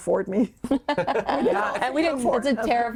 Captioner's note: all laughing